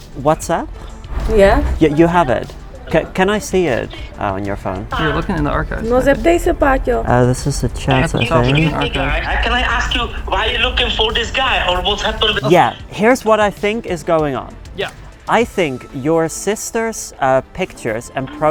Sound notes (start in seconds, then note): 6.2 person speaking in foreign language